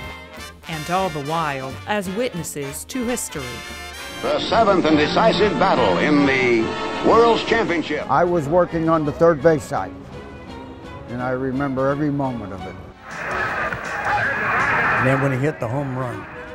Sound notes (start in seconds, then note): 13.0 crowd roaring